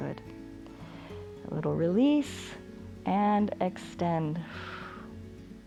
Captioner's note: exhales